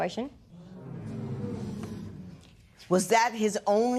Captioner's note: spectators murmur